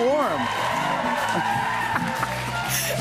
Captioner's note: cheers and applause; both laugh